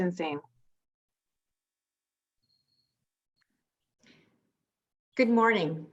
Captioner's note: silence